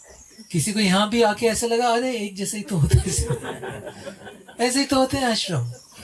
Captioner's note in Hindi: हंसी